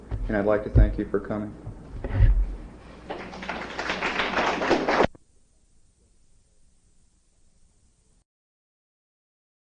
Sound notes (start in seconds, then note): 3.0 applause